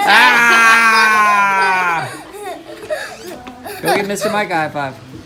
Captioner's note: laughing